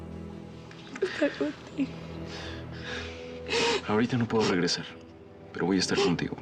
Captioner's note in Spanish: sollozos